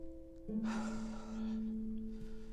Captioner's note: breathes out